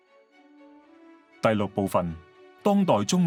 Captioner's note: Cantonese